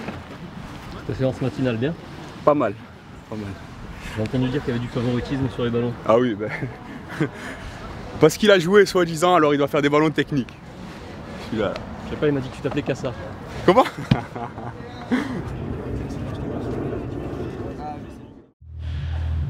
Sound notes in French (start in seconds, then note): 13.7 rires